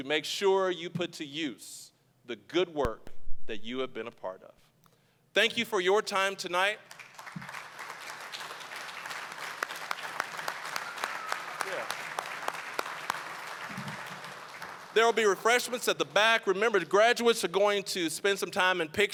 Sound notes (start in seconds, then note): 6.8 applause